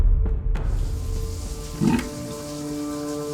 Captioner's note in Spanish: agua corriendo; gorgoteo del grifo